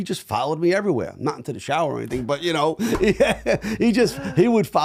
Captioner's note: laughing